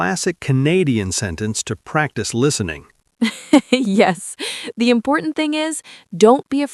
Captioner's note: laughs